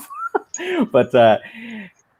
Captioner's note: laughing